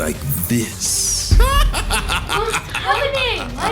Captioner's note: laughing